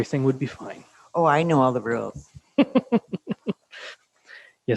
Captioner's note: laughs